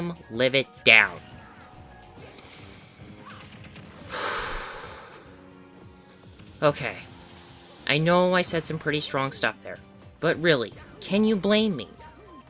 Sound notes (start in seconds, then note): 2.1 insert deep breath in and out here